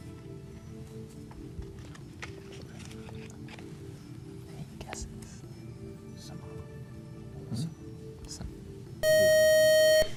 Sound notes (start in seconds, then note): 0.3 whispering; 7.5 buzzer